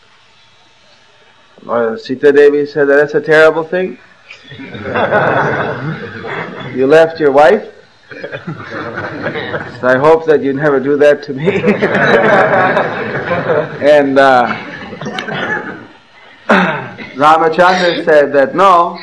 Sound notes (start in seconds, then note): 12.9 laughter